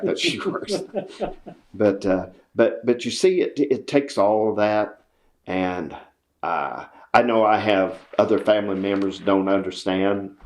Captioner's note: laughter